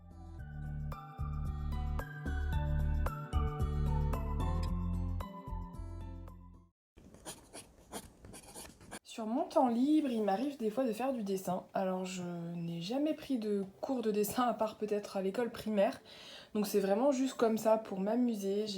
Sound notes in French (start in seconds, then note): 7.0 Bruit de crayon sur une feuille